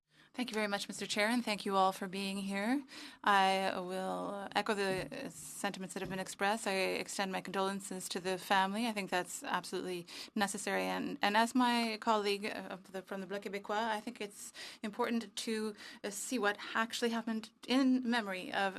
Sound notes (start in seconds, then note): 2.0 speaking French